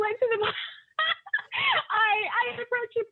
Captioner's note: laughing